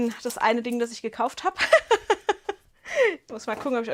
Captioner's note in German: Gelächter